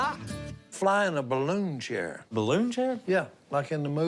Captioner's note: none